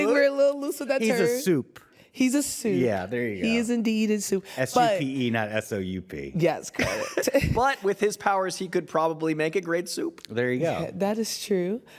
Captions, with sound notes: I do think we're a little loose with that term. -He's a supe. -He's a supe. -Yeah, there you go. -He is indeed a supe. S-U-P-E, not S-O-U-P. Yes, correct. (CHUCKLES) But with his powers, he could probably make a great soup. -There you go. -That is true.